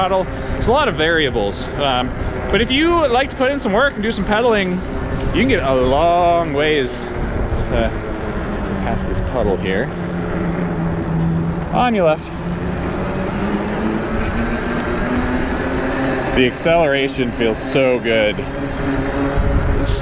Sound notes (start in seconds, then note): 12.6 wheels whirring